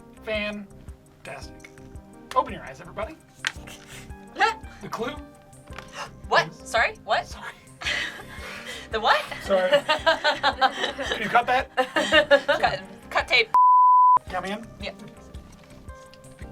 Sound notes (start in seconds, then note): 5.8 gasps; 12.0 laughs; 13.5 beep